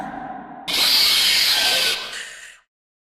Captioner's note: attack screech